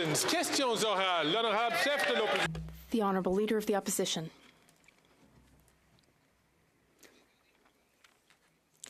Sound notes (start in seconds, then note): 1.8 some Applause